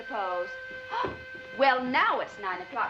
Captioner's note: whistle blows